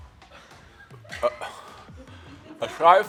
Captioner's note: Joe gags